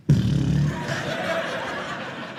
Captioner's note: beat boxing; audience laughing